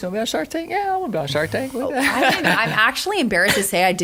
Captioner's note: laughter